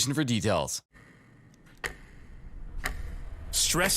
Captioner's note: clock ticking